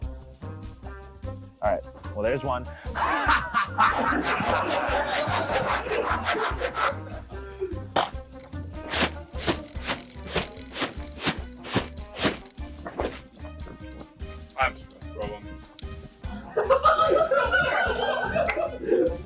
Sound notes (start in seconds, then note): 2.9 maniacal laughter; 6.8 audience laughter; 12.1 laughs; 13.8 audience laughter